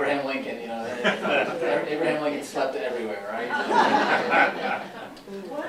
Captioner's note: laughter